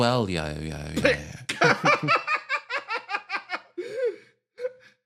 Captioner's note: laugh